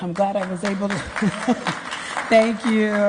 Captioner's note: applause